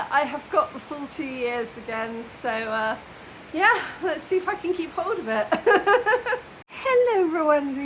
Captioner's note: laughing